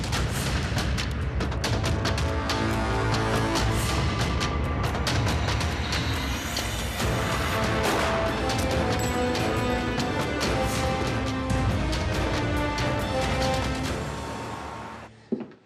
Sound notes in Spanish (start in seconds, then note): 7.8 Detonación de disparo